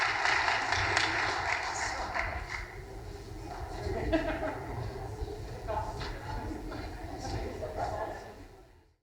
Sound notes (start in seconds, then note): 4.0 laughing; 5.6 crowd murmuring